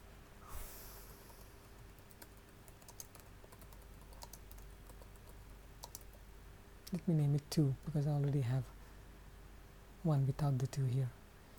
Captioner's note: exhales